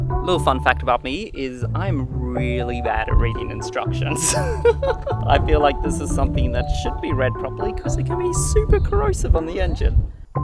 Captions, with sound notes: Little fun fact about me is I'm really bad at reading instructions. (laughs) I feel like this is something that should be read properly because it can be super corrosive on the engine.